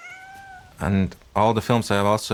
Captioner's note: cat yowling; cat mewing